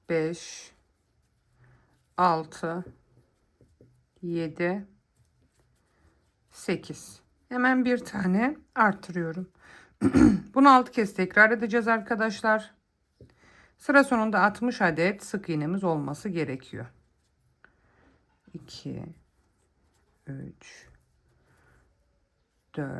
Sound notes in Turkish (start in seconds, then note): 10.0 boğazını temizler